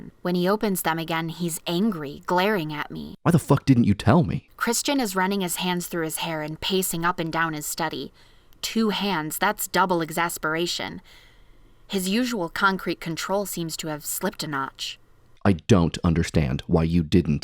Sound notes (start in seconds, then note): 3.9 reading aloud from the novel